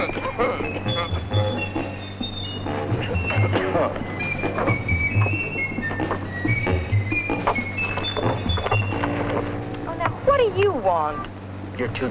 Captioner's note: coughing